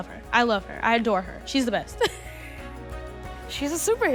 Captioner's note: laughs